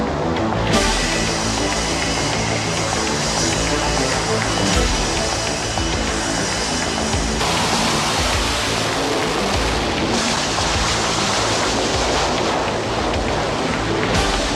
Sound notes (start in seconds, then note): 0.5 suspenseful music playing; 8.1 plane noise